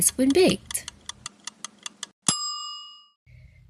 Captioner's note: timer ticking and dinging